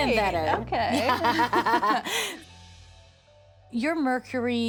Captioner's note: laughs